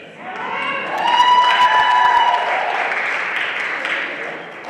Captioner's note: audience cheering